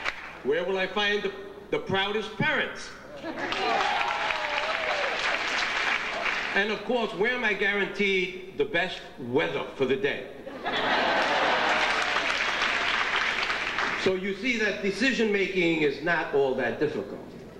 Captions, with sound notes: - Where will I find the proudest parents? (audience applauding) And of course, where am I guaranteed the best weather for the day? (audience chuckles and applauds) So you see that decision-making is not all that difficult.